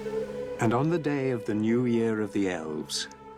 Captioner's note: narrator reading on-screen text